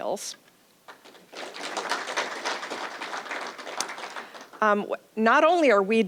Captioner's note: applause